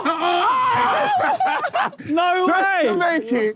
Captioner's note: Sidemen cheer